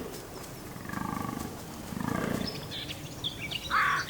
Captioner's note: deer grunting